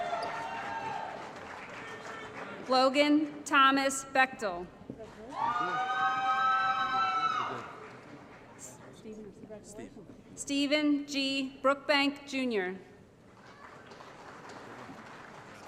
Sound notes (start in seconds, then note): 0.0 applause; 5.2 applause & Cheering; 13.3 applause